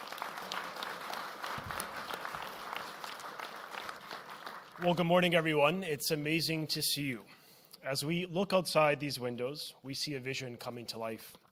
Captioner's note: applause